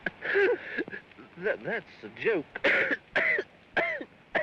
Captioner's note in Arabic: يضحك و يسعل; سعال; السعال بعنف